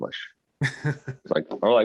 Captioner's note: chuckling